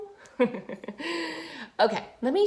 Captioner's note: laughing